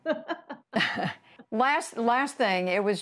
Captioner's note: laughter